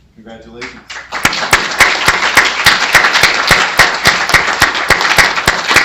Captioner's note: applause